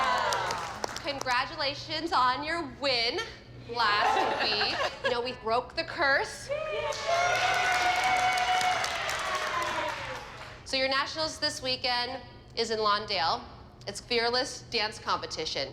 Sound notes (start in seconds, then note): 4.0 girls whoop, laugh; 6.5 cheering